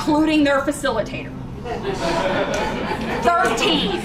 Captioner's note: laughter